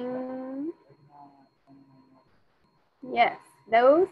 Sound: student speaking faintly

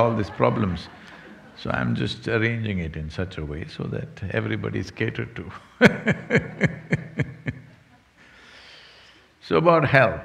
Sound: laughs

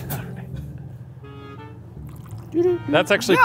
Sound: whispering

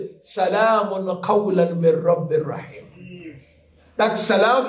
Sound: Arabic

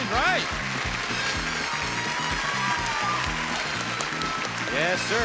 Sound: audience cheering

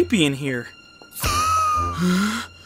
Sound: poof

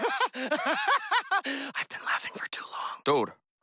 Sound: laughs like a dork; whispering

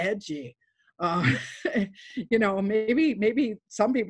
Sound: laughs

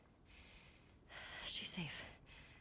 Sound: sigh

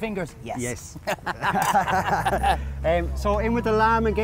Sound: chuckles

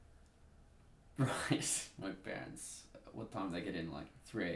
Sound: laughing

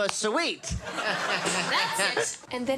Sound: skeleton laughs

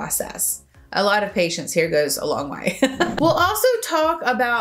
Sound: laughs

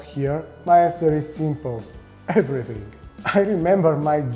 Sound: chuckles

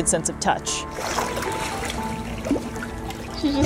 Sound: background music; water splashing noise

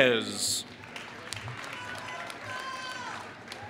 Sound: applause

